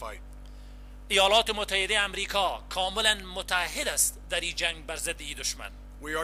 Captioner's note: translator speaking in foreign language